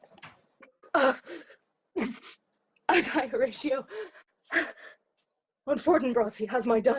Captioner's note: groaning painfully